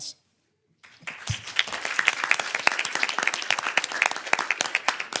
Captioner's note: everyone claps